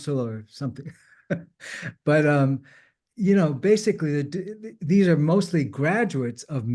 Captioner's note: chuckles